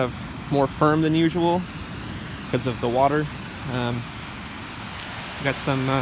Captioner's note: rain